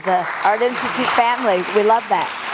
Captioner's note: audience applauding